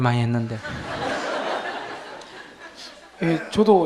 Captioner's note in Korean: 청중 웃음